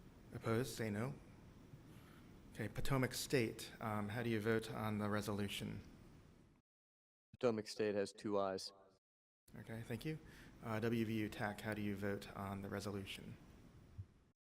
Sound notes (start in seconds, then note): 1.2 silence